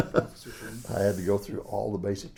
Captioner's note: laughs